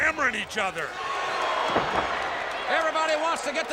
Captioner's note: audience cheers